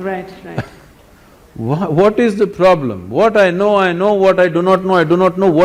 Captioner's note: laughs